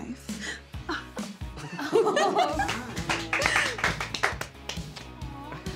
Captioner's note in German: Portia lacht und alle klatschen